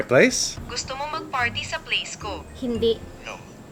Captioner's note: foreign